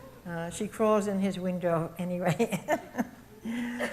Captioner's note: chuckles